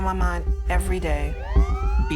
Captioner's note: police siren blaring